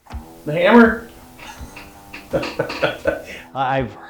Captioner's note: laughs